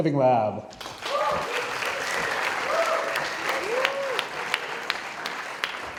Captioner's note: audience cheering and applauding